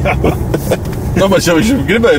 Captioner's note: laughs